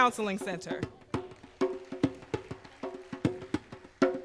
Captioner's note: applause